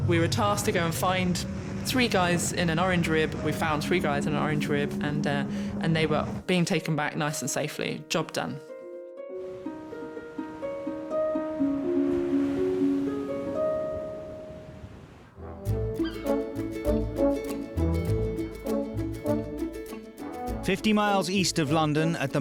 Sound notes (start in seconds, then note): 9.5 air whooshing; 15.4 upbeat music